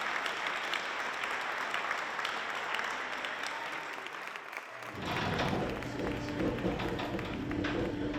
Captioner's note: applause; door closing